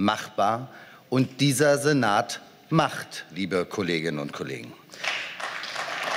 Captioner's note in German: Beifall